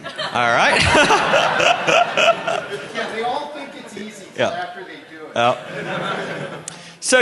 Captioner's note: laughter